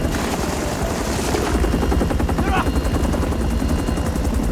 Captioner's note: Korean